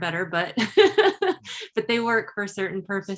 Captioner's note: chuckles